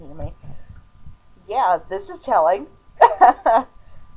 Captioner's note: more dumblaff.mp3